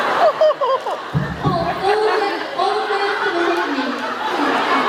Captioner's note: laughs; thumps mic; laughs